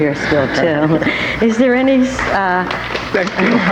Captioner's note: audience applauding